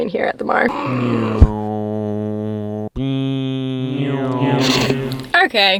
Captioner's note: more meme car sounds